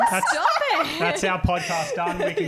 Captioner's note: laughing